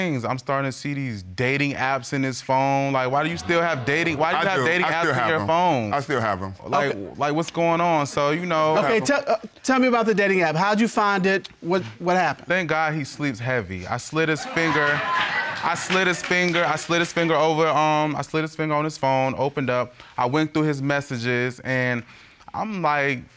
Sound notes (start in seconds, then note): 14.4 audience laughs; 14.4 audience members applaud